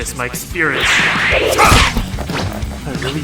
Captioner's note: grunt